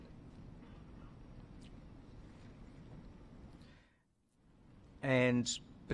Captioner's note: silence